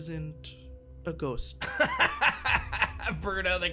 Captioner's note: laughs